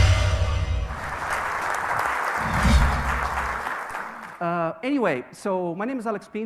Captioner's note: audience applauding